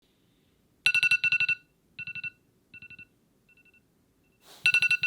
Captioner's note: alarm ringing